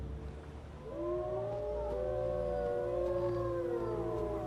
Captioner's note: wolves howling